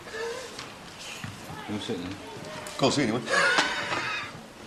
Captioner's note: laughs